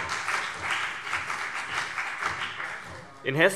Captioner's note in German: Beifall BÜNDNIS 90/DIE GRÜNEN und vereinzelt CDU